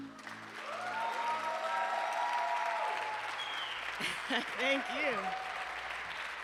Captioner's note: attendees cheering